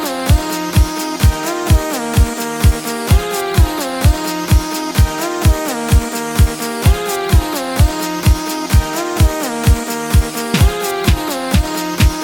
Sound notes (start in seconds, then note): none